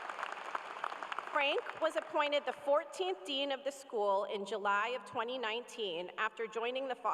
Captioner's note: cheers and applause